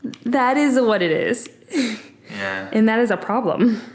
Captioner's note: laughing